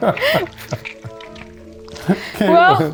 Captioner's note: laughing; paste squishing